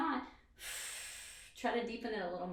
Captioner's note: exhales breath